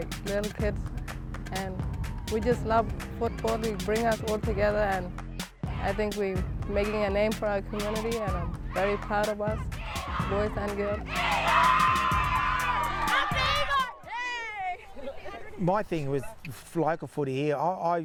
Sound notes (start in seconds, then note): 11.0 cheering